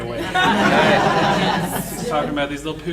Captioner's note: audience laughing